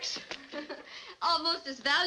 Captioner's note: chuckles